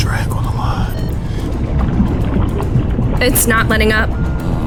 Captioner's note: water bubbling